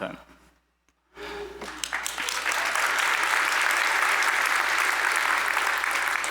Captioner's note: applause